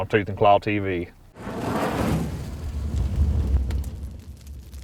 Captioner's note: fire burning